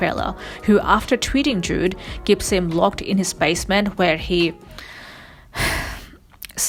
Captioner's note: sighs